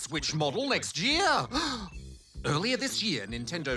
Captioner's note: gasps